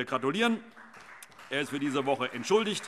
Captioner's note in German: Beifall